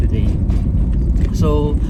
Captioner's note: car clunking